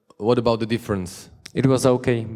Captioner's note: voiceover